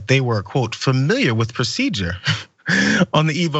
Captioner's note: laugh